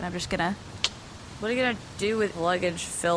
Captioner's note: clicks her tongue